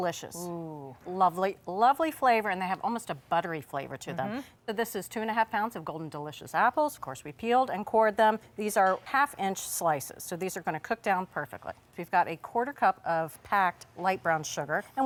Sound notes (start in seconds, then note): none